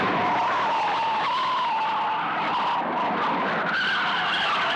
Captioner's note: tires screeching